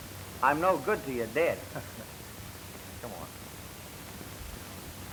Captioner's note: laughs